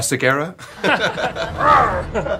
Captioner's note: growls